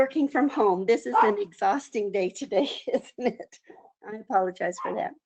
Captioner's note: laughs